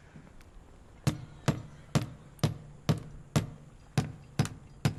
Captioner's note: hammering